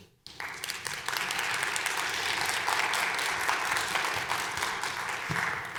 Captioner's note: audience applauding